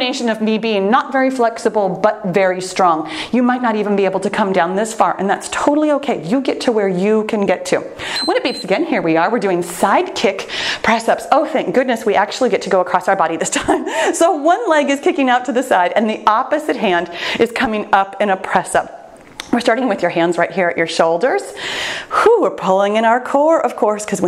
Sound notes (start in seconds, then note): 8.0 timer beeps; 13.5 laughs